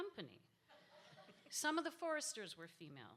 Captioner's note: audience laughs